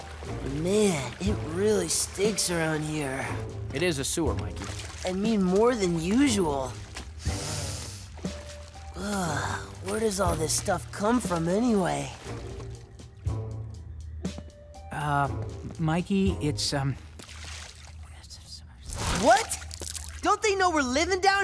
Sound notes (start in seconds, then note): 7.2 inhaling deeply; 16.8 whispering